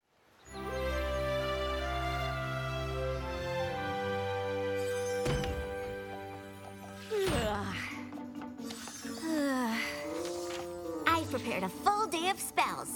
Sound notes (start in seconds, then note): 9.1 yawns